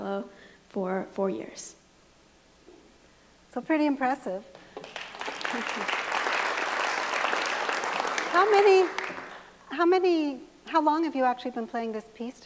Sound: applause

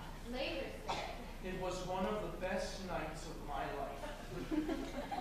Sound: MARVIN, spoken

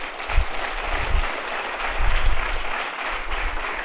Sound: applause

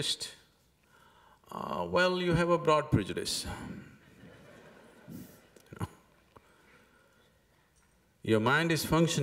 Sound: laughs

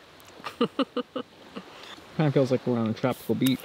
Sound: chuckles

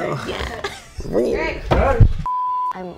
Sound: chuckles

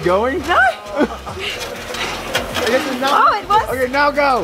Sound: panting

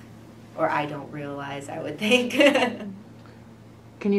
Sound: laughs

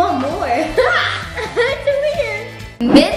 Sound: chuckles

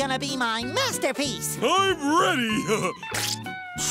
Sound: chuckles

